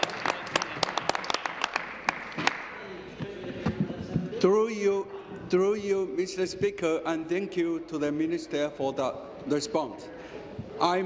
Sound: applause

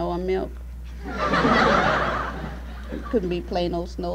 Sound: laughter

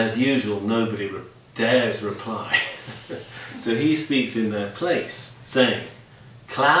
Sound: laughs

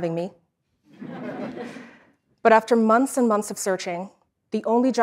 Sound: laugh

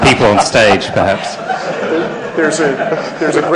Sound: laughter

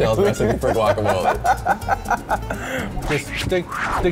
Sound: laughter

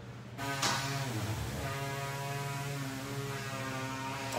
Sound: machine buzzing

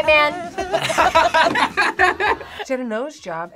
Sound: laughs

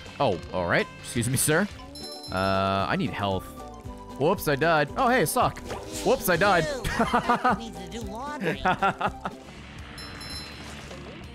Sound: laughs

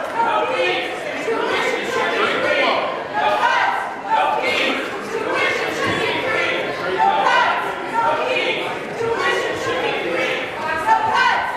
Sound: chanting

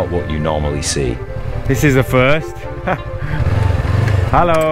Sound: laughing

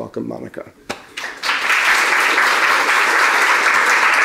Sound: applause

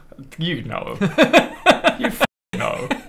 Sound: evil laugh

